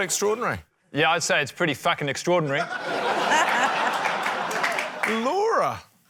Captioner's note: laughter